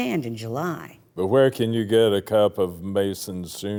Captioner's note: speaking dejectedly